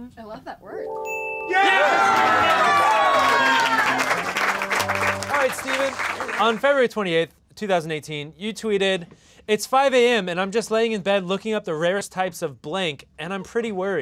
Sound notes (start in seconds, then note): 1.4 cheering, clapping x9